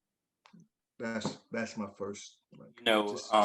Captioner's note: audio glitches